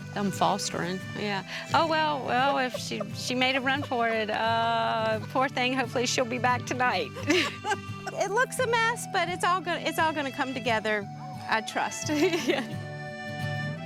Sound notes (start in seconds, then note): 4.7 laughing; 12.1 laughs